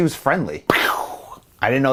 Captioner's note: imitates explosion